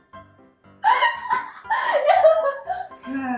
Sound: wheezing

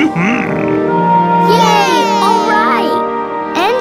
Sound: cheering

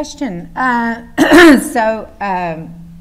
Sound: clears throat

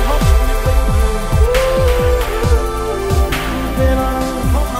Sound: O0ooooh-O00oooh

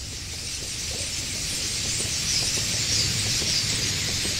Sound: birds chirping

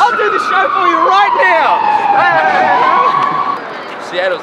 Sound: weird murmuring

